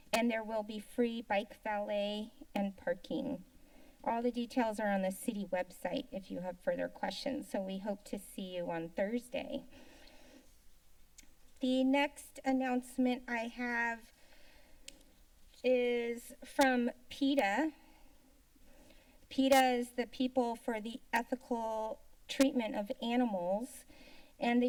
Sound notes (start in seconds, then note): 10.9 tongue clicking; 17.8 silence